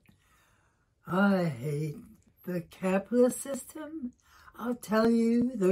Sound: sing-song tone

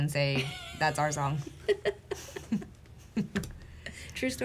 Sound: laughing

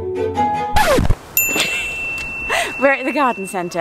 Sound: record scratch

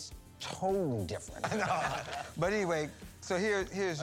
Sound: laughter

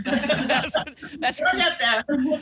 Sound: laughter

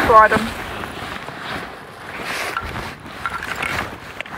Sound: sound of rustling

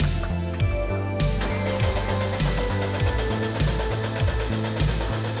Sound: engine chugging

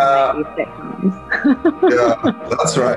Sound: laughs

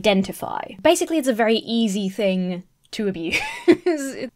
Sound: laughs

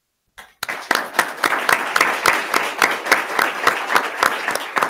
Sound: attendees clapping

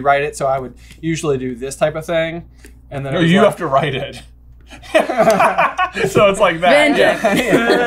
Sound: laughs

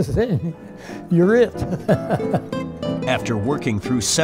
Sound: laughs

